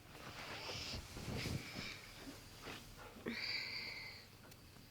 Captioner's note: Katie sighs